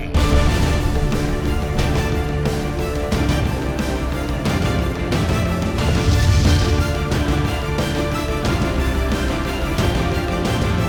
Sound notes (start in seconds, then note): 0.2 dramatic, intense music; 5.7 exploding